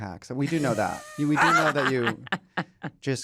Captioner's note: laughter